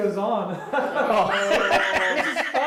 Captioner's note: laugh